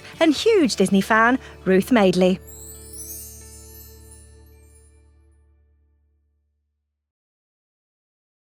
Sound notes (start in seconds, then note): 2.1 chimes tinkling